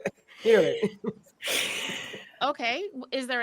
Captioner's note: chuckles; group laughs